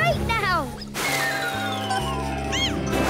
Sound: laughing; meowing

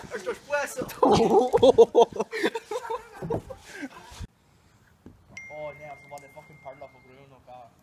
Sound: laughing

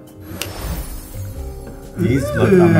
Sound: twinkling; snaps fingers

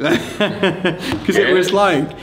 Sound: laughs

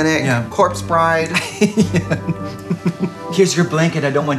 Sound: laughing

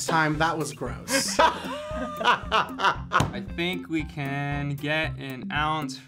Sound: laughs

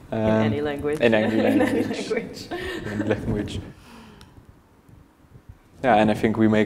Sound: laughs

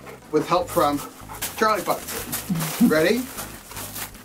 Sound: dog pants

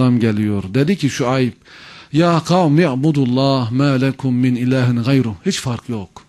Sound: reciting the verse

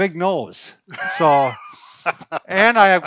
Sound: laughing

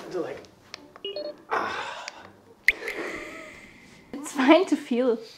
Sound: clicking; groaning

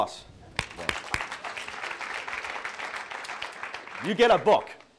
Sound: audience applauding

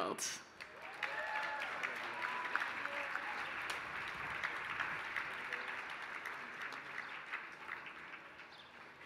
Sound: applause

